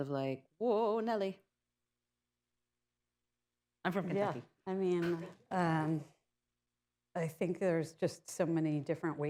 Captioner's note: laughter